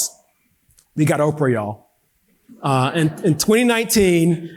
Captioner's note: audience laughing